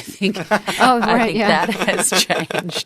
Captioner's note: laughter